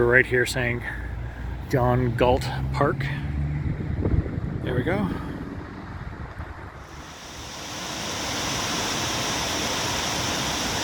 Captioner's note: sound of water falls